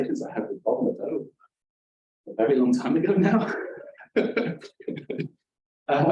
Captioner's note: laughing